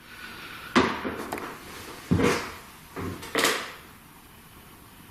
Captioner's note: soft thudding